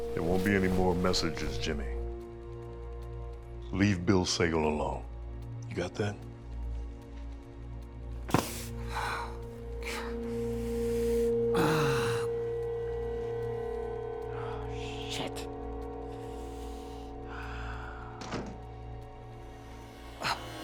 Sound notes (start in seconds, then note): 8.5 gasps; 12.9 groans